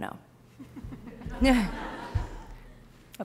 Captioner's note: laughter